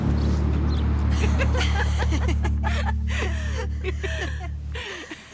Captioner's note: laughing